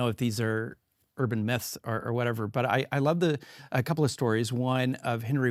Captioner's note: none